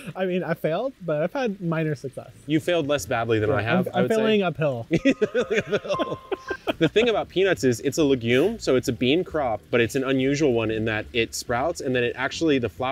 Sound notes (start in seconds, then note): 4.9 laughs